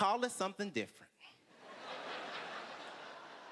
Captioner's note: laughter